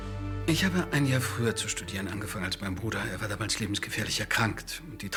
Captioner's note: speaking in foreign language